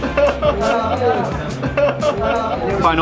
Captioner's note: laughing